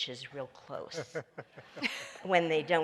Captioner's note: laughs